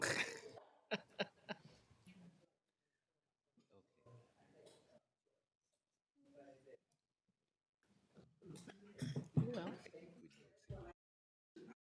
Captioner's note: laughter